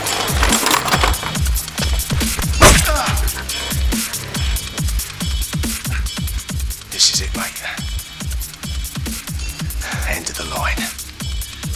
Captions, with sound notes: (tools rattling) (skin slicing) (Andy groaning) (upbeat music) This is it mate. End of the line.